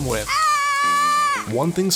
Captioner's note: scream